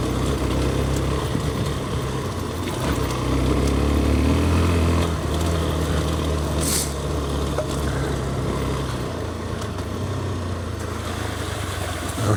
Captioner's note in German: schnauben